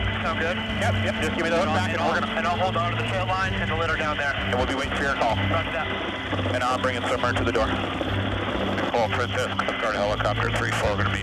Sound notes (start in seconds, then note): 5.7 man Over Radio; 6.9 person Over Radio